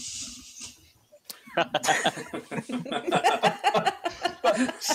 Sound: laughing

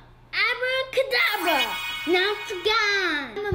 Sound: chime

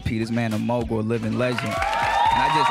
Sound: audience claps and cheers

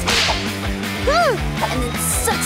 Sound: scream

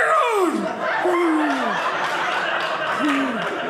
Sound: audience laughing

